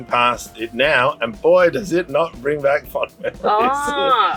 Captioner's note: chuckles